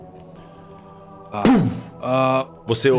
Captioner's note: thump